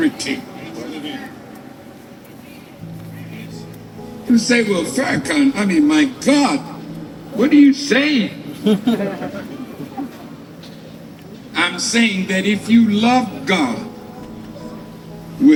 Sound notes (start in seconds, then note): 8.5 laughter